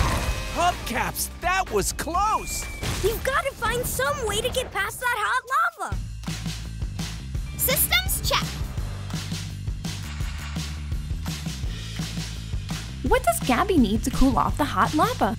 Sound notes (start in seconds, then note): none